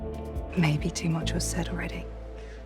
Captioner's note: voiceover